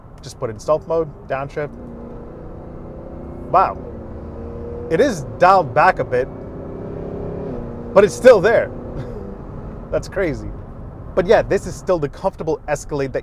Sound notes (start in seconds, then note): 2.3 engine revving; 8.9 chuckling